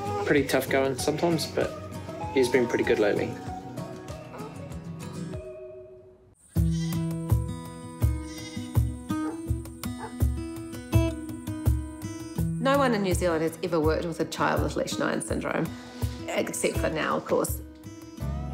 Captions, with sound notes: '...pretty tough going sometimes, but he's been pretty good lately.' (LAMB BLEATS) (DOG BARKS) (TRANQUIL MUSIC) - No one in New Zealand has ever worked with a child with Lesch-Nyhan syndrome. Except for now, of course.